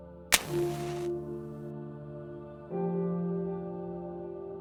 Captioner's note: match crackling